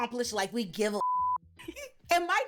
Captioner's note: beep